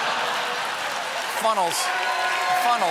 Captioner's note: laughter; applause